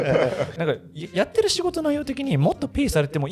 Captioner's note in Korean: 웃음